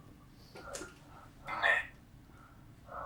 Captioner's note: achmet – artificial male voice